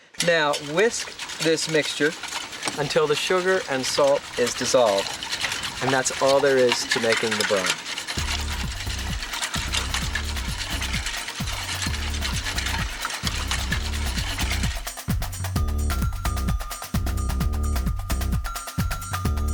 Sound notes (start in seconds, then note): 8.1 upbeat music; 8.1 whisk clinking against pan; 16.6 upbeat music